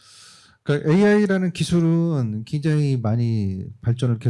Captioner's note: speaking korean